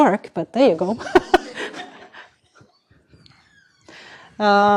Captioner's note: laughter